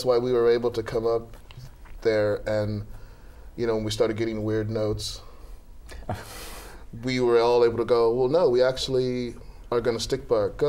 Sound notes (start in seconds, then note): 5.4 laughter